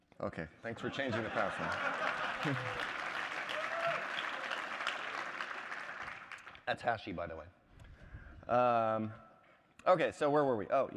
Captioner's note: applause; laughter